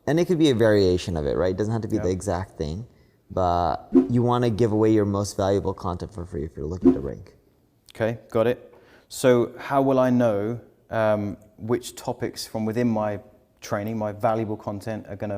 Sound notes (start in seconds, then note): 6.8 graphics whooshing